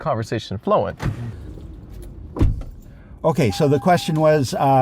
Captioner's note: car door closes